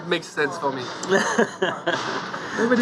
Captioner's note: laughter